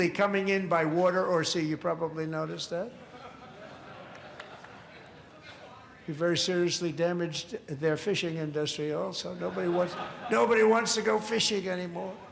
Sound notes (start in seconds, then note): 9.3 laughter